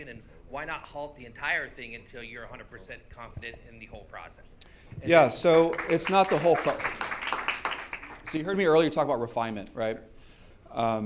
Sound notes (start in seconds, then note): 8.1 audience applauding